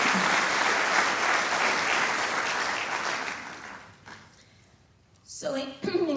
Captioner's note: applause